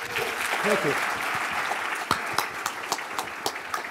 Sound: audience clapping; clapping

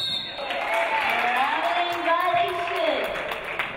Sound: referee blows whistle

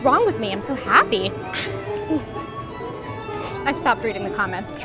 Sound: laughing

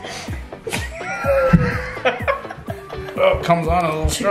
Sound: laughing

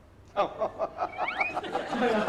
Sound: laughters

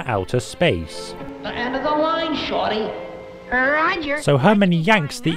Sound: voice echos

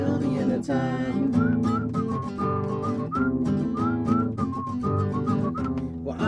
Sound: whistling

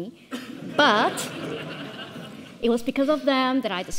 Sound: audience laughs

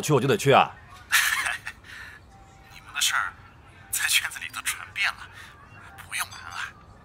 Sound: laughs

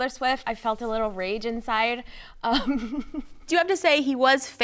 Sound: laughs

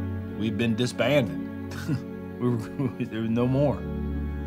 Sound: chuckles

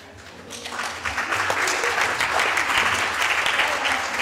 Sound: audience clapping

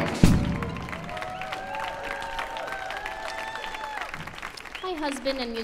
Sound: audience cheers and applauds

